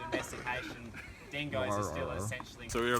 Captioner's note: makes 'chewing dog' noises